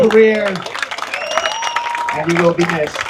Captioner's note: applause